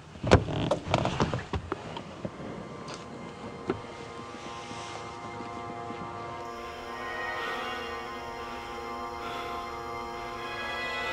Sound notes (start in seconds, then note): 2.4 tense music; 7.6 man panting